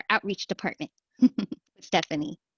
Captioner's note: laughter